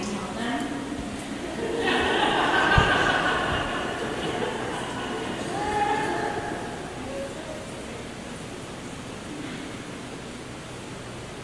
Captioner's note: laughter